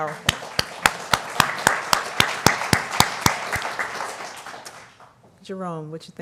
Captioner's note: applause